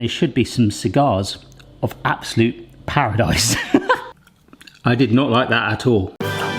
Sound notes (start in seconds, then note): 3.6 laughs